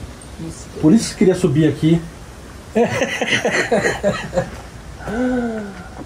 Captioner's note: laughs